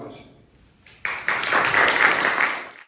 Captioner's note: applause